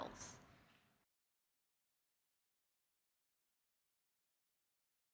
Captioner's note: silence